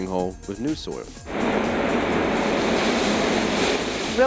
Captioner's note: sounds of tractor moving dirt